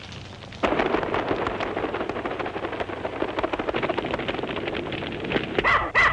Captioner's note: fire crackling; elephant trumpets